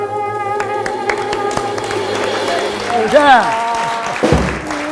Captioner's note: audience applause